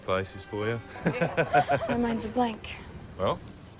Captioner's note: laughs